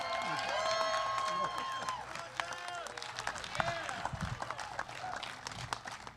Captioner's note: applause